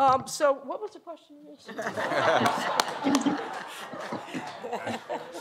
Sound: laughter

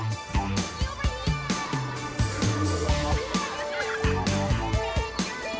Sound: kids chattering and laughing

